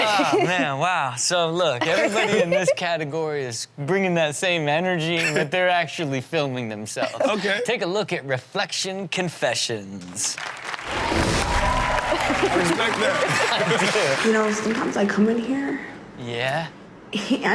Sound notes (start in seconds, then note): 10.4 audience cheers